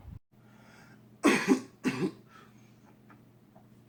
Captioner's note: coughs